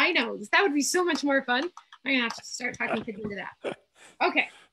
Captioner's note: laughs